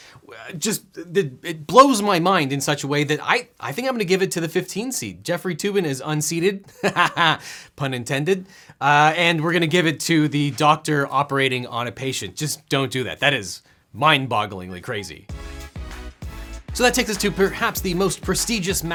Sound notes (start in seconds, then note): 7.5 laughs; 14.9 upbeat music